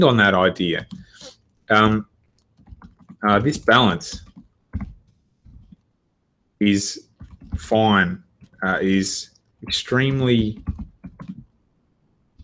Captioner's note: typing